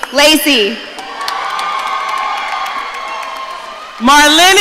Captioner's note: audience cheering